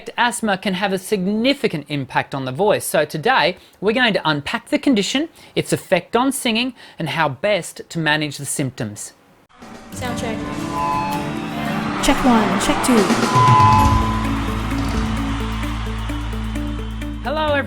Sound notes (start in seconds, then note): 10.3 voiceover; 13.5 applause; 15.0 upbeat music